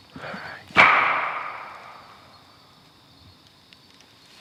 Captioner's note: knocking